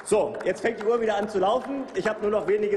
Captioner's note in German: Applaus